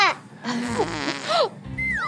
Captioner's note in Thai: ผายลม